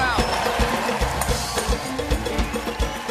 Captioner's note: band playing; cheers and applause